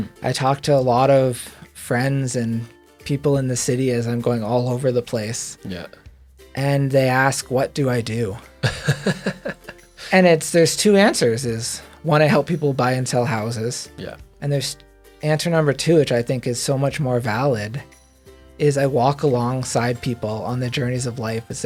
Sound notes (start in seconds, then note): 8.6 interviewer laughs